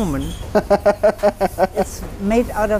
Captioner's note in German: Er lacht herzlich